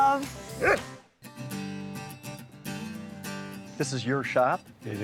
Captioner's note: dog barks; gentle music